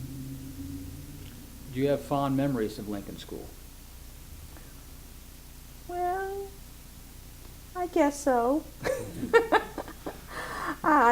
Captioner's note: laughs